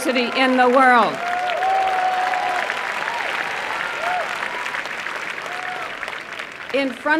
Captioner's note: applause and cheering